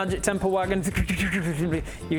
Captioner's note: extra-dimensional wagon noises